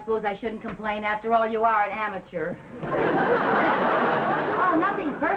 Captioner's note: audience laughing